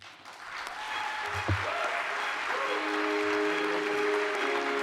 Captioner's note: audience applauding